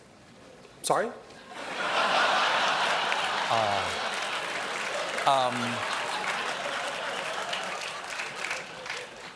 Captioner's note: laughter